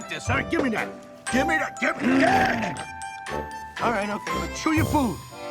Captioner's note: player growls